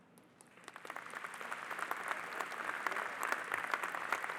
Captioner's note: audience applauding